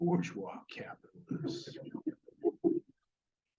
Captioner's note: audience laughs